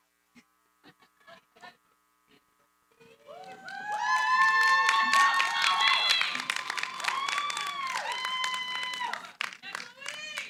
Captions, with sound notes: [ Cheering, applause ] >> Yay, Chloe. [ Cheering, applause ] >> Yay, Chloe.